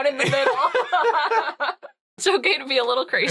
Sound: laughing

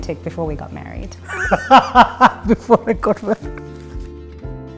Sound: laughing

